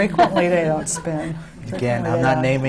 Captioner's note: laughter